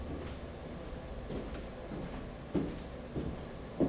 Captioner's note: walking